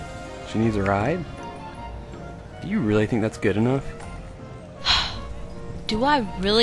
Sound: sigh

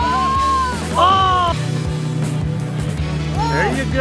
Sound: disappointed shouting

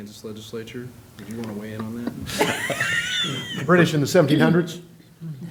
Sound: laughter

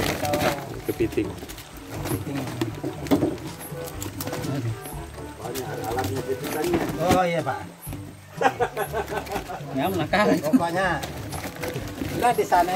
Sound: laughs

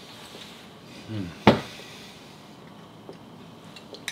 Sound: sigh

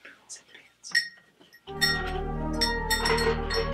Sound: bell ringing

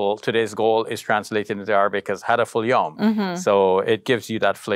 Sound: speaks Arabic word

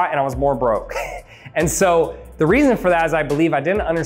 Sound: laughs

